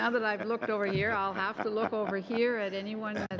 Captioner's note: laughter